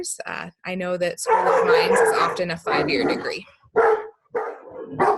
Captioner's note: dog barking